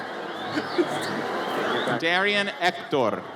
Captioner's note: audience member whistles